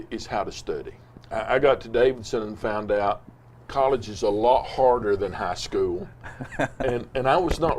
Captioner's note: laughs